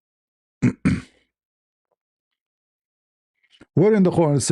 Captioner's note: clears throat